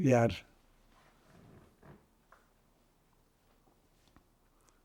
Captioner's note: pauses 6 seconds